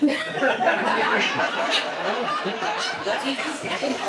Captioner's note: audience laughs